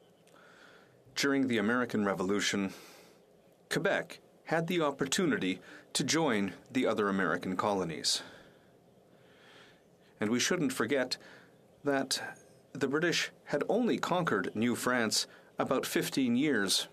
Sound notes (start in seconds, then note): 2.2 speaking French